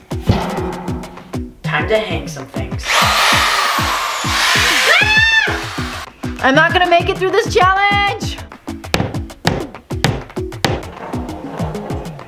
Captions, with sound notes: (furniture bangs) - Time to hang some things (drill whirls) (mother screams) - I'm not going to make it through this challenge. (hammer bangs)